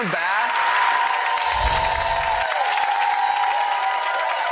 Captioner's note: audience cheers